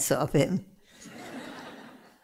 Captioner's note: laughter